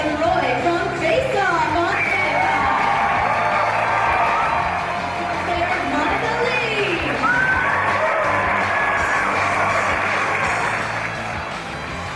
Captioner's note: applause